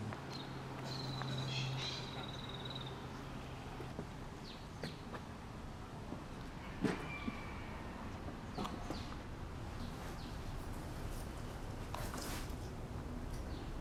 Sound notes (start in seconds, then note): 2.3 birds chirping